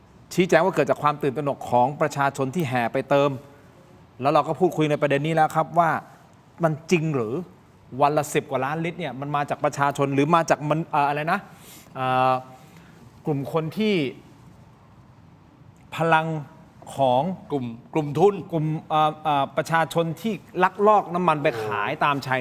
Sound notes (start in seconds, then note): 15.8 takes a breath